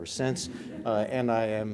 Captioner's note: audience laughs